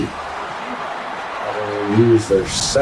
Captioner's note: crowd Noises